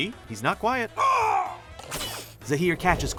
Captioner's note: grunting